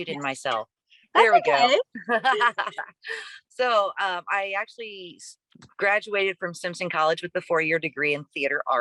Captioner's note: laughs